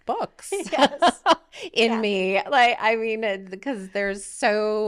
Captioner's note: laughing